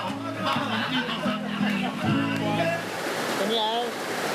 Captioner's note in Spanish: Risas